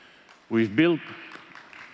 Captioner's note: applause